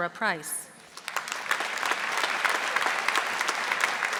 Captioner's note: audience applauding